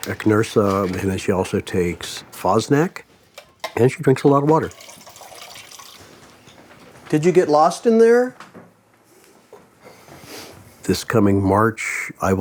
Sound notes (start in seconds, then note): 4.6 water splashing